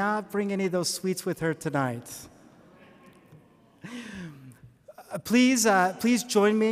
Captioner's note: audience playfully groans